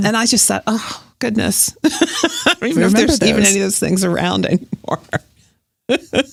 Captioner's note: guffaw; laughs